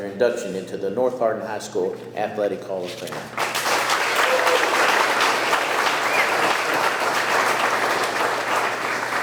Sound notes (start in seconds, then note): 3.2 audience clapping